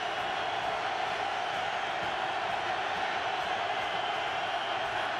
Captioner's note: crowd cheering